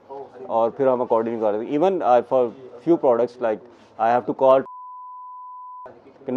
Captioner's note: beep